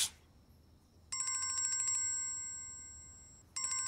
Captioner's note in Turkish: Telefon çalıyor